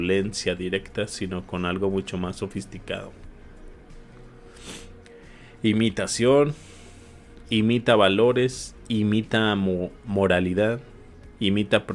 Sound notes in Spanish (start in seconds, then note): 4.6 resoplido